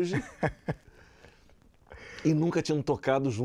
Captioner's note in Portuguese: Risadas